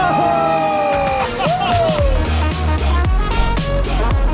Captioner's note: men whooping; upbeat electronic music